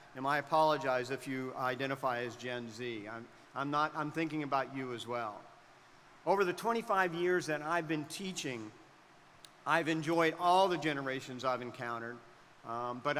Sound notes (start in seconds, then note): none